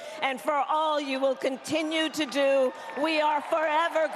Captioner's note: cheering